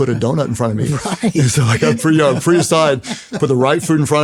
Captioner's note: laughs